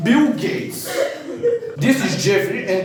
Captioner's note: laughing